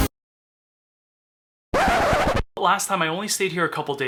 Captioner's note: static buzzing